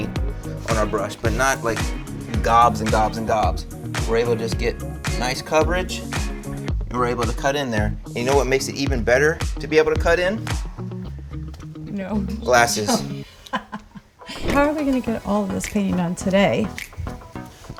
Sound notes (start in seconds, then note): 12.7 laughing